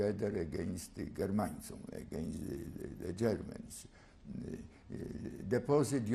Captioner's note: non-english